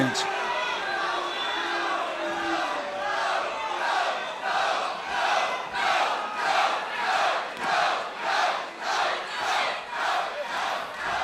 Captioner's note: crowd cheering